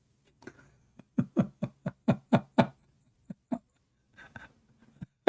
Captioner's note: Ketawa